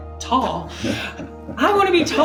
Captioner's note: laughing